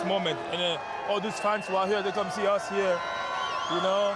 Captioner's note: cheers